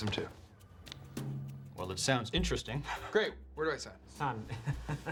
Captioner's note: chuckles